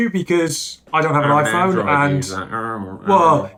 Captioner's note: murmurs mockingly